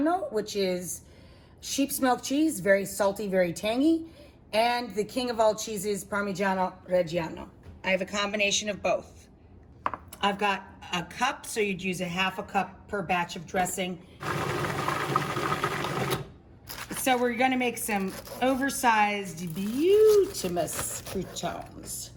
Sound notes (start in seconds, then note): 14.2 blender grinding